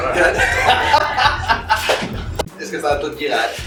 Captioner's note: laughs